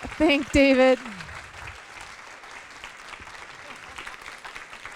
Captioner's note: applause